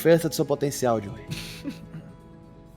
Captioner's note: chuckles